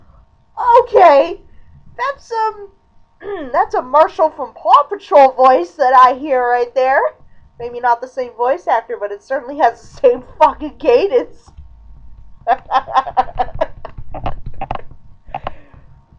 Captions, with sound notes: Okay! That's, um... (clearing throat) That's a "Marshall from Paw Patrol" voice that I hear right there! Maybe not the same voice actor, but it certainly has the same fuckin' cadence! (laughing, creaking)